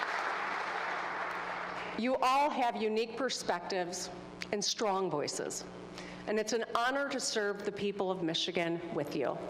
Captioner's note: applause